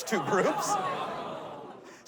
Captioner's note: audience groans